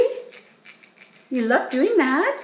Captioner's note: teeth scraping